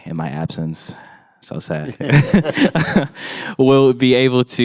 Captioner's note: chuckles